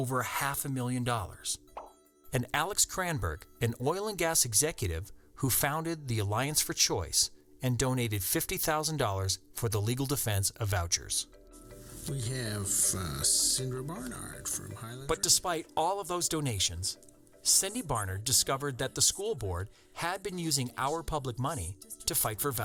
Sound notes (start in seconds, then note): 1.8 pop